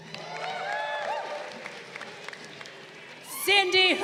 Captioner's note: crowd cheering